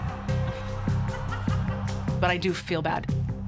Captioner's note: laughs